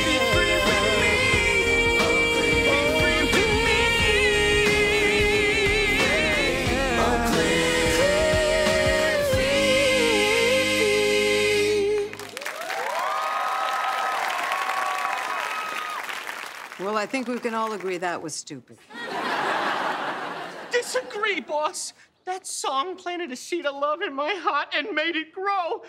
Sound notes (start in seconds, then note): 12.2 cheering